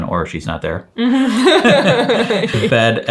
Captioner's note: chuckles